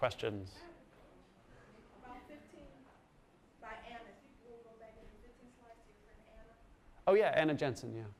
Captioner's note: voiceover